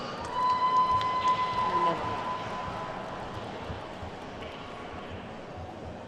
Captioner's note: attendees whooping and clapping